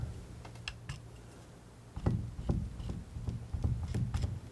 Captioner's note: tapping